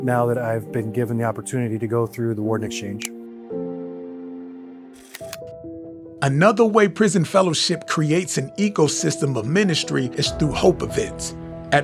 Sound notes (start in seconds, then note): 4.0 gentle music; 5.0 screen clicks